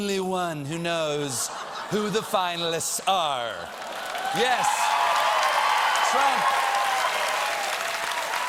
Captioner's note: cheers and applause